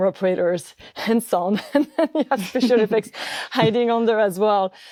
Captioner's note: laughs